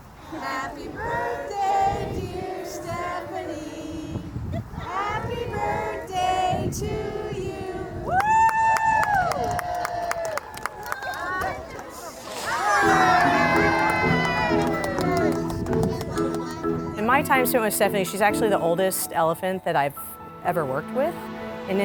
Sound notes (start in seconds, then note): 8.1 cheers and applause